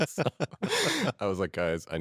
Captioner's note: both laugh